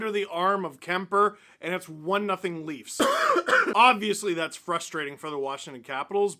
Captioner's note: cough